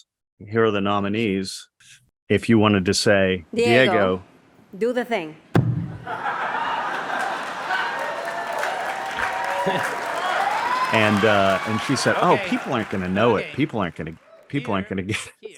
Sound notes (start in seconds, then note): 6.0 audience laughs; 8.3 audience claps